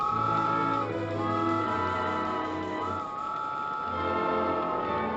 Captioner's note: train Engine Chugging; train Whistle Blowing